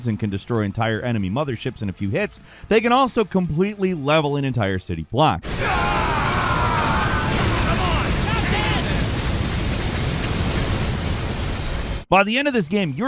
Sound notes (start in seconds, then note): 5.4 characters screaming; 5.4 bomb exploding; 9.0 gun firing